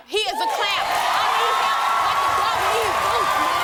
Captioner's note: audience cheering